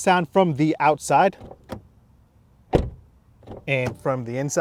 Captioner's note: door slams